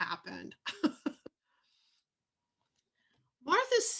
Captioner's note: laughs